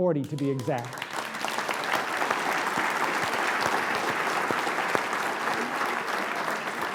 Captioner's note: applause